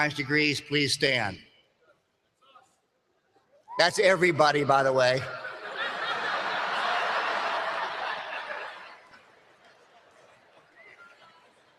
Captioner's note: laughter